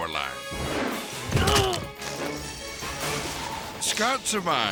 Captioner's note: grunts